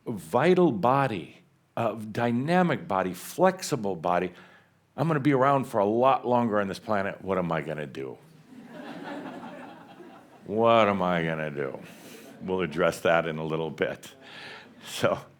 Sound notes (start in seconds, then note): 8.4 some chuckles